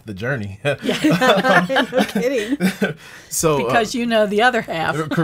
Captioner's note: laughing